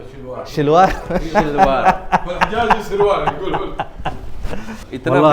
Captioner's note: Arabic